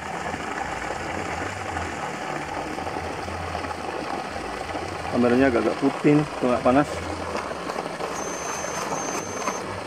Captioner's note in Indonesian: suara air